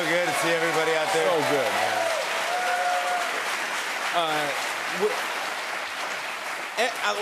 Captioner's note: applause continues